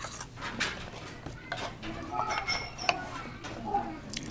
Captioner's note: laughs